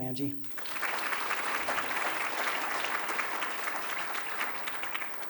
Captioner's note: applause